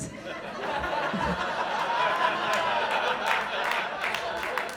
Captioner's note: audience laughing